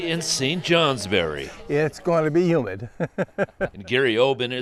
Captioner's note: laughing